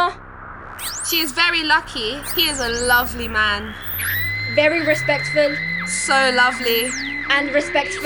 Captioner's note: scream